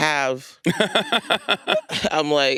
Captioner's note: Hasan laughs